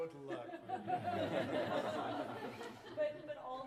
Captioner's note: laughter